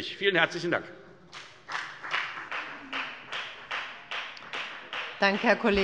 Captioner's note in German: Beifall bei der FDP